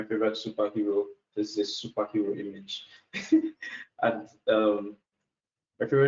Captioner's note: laughs